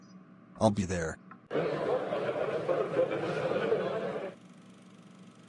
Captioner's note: crowd chatter